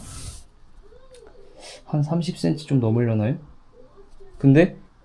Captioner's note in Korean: 콧방귀